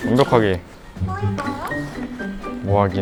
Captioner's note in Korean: 카톡 알림음